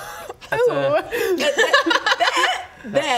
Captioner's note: unhelpful laughter